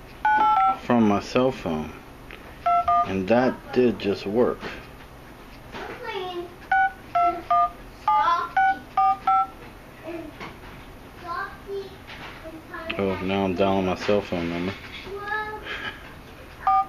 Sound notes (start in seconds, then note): 8.5 dialing noises; 9.0 kids talking